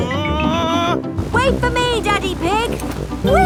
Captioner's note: screaming